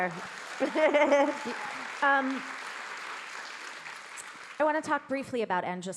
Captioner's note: audience clapping